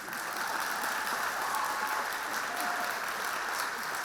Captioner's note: audience applauding